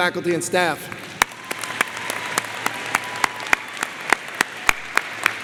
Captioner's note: crowd applauds